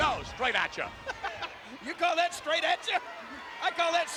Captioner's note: chuckling